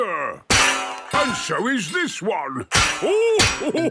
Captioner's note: clanging; laughing